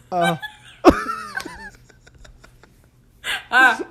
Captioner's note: both laugh